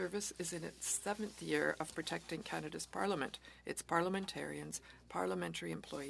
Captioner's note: speaking French